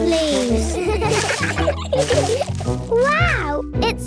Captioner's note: laughter